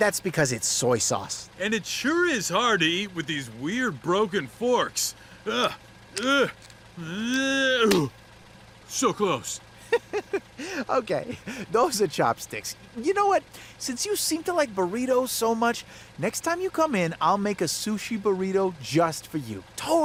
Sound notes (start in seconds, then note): 5.2 grunting in effort; 7.8 chopsticks snap; 9.7 laughing